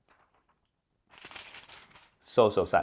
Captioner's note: plastic rustles